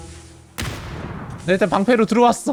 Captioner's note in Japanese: どかん